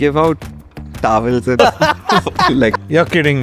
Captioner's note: laughs